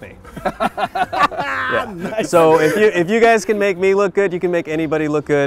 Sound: laughing

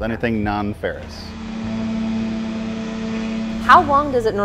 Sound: tool buzzing

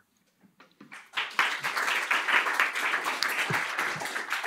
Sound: applause

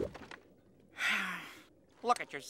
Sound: sighing

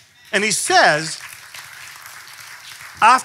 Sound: clapping

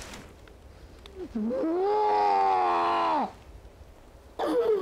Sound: Bob screams

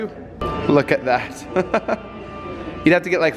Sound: chuckling

